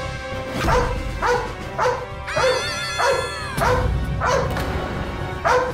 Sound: dog barks

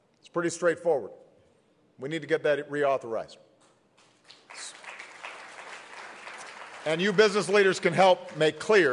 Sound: applause

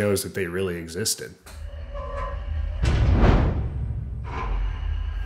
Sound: vault door slamming shut; vault door opening

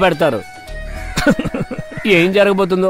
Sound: laughs

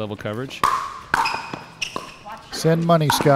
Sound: ball bouncing

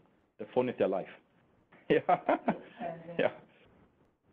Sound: laughing

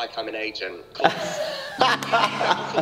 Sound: laughter

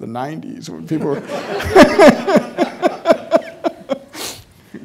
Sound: all laughing

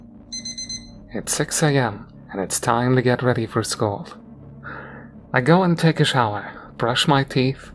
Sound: beep beep, beep beep

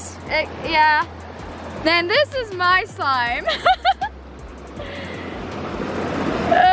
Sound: laughing

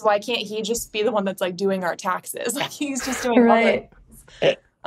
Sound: chuckles

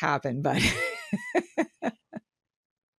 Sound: laughs

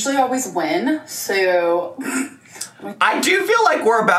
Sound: laughs

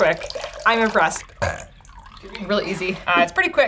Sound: burps

